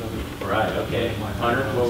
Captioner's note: voiceover